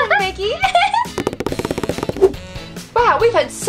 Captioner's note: hurrying footsteps; air swooshes